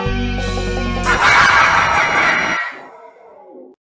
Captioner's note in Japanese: 反ソメイティ笑い